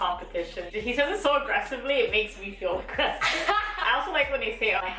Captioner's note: laughs